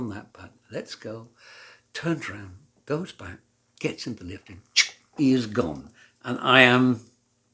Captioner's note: poff!